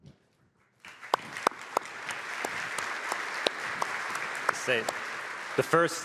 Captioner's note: applause